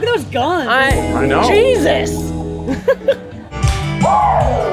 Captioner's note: laughs; lively upbeat music